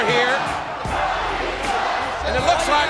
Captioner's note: crowd chanting "Rocky sucks!"